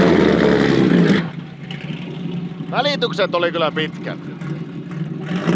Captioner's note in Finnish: moottorin ääni